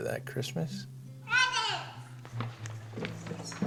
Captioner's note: kara shouts excitedly